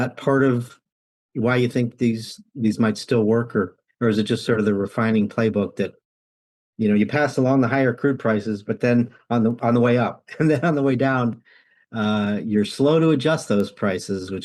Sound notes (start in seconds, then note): 10.2 laughs